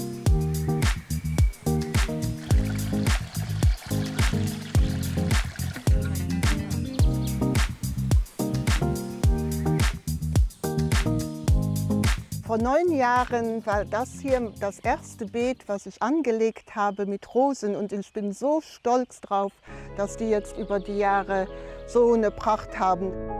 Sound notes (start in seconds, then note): 1.9 splashing